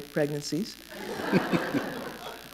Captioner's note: laughter